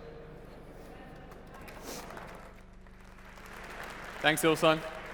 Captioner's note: applause